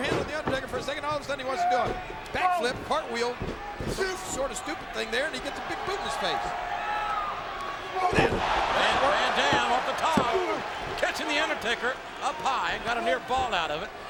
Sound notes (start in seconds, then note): 8.0 mat slapping; 8.0 mat thumping